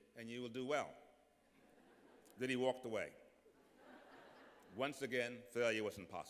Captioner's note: laughter